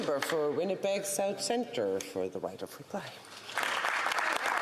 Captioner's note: applause